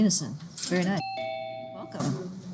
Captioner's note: doorbell rings